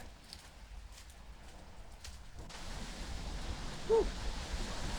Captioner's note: leaves crunching